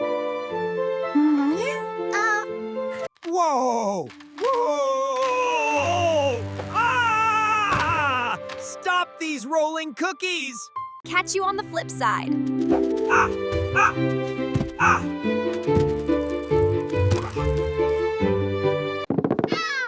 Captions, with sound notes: Whoa. Whoa. [screaming] Stop these rolling cookies. Catch you on the flip side.